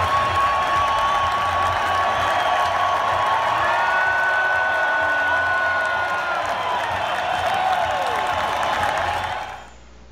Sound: crowd cheering

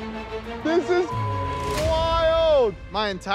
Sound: beep

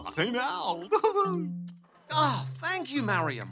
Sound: laughs

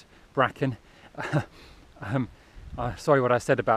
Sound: feeble chuckle

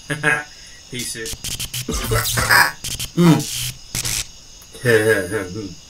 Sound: glitching

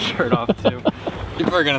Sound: laughing

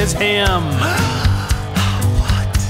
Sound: gasps

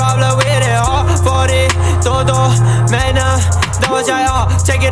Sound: ugh

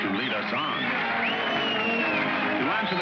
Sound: whooping & cheering

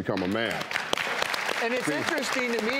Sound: audience applauds

